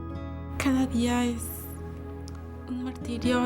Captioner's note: speaking spanish